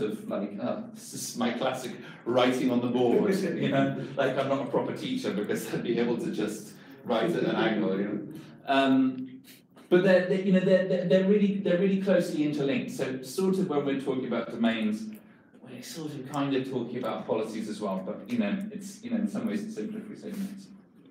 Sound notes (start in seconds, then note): 3.0 audience members laugh